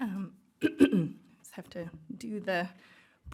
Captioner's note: clears throat